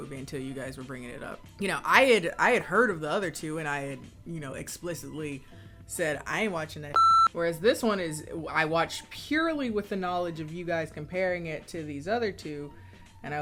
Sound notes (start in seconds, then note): 6.9 beeps